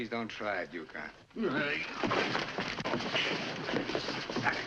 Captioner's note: scuffling